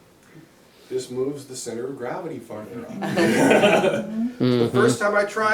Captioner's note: laughter